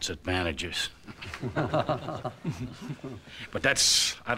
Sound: chuckles

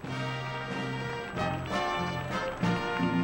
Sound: applause

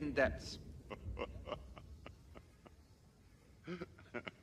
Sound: Saiga-12 chuckling

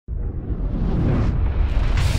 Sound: swoosh sound

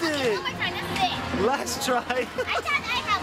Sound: laughs

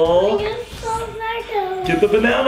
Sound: murmurs

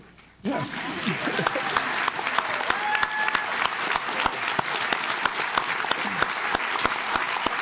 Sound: audience claps; audience cheers

